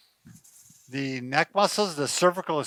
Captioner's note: chair slides